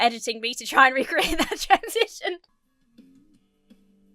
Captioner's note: laughs